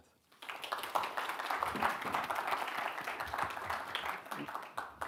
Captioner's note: audience clapping